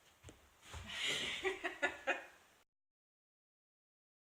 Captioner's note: laughs off-screen